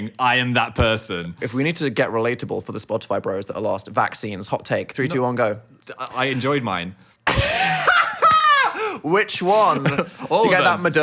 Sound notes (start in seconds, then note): 7.2 both laughing